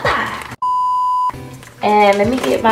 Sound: beep

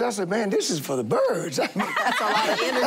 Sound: laughing

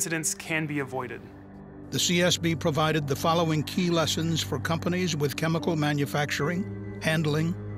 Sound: none

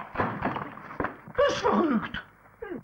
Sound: German language

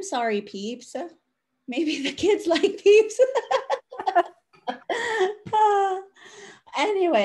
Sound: laughs

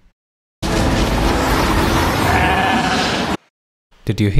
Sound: wind and bleat

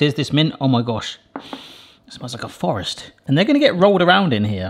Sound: sniffs

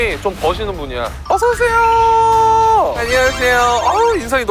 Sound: sudden high tone from big company aura

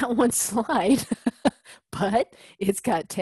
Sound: laugh

